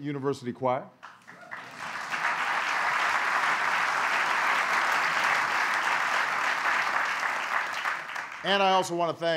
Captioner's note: applause